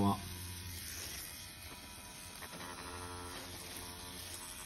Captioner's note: machine buzzing